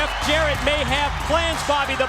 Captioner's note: crowd cheering